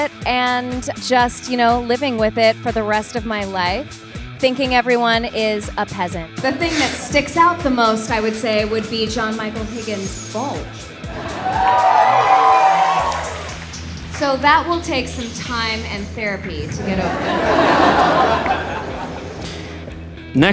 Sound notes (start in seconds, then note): 11.0 audience expresses shock; 16.6 audience laughs